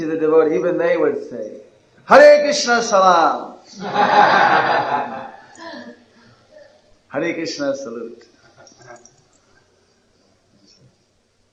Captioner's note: laughter